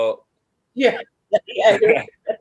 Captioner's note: laughing